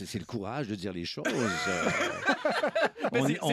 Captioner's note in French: rires